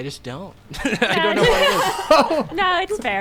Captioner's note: players laughing